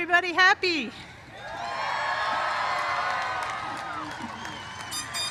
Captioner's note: cheers and applause